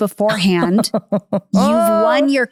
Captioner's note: laughing